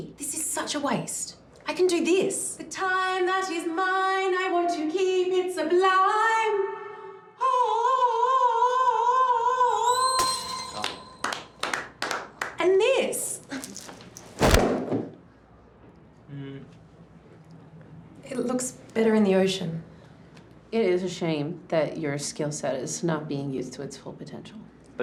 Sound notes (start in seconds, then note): 7.3 wails; 9.9 glass smashes; 11.2 clapping